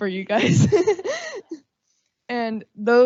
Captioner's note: laughing